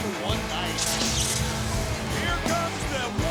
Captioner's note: flames swooshing